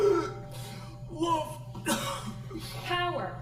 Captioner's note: coughs; coughs